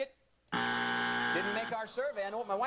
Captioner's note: buzzer